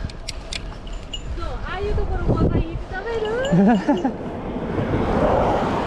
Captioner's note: laughs